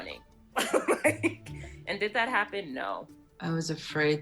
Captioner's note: laughs